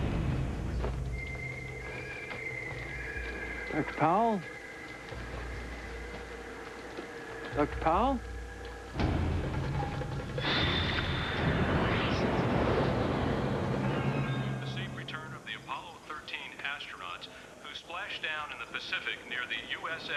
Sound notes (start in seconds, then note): 9.5 dramatic music; 14.8 man on radio